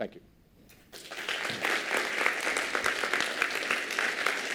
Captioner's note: applause